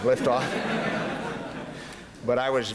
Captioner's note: laughter